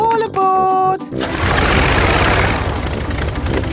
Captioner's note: plane engine starts